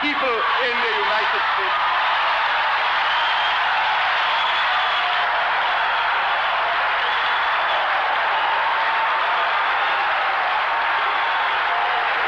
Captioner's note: applause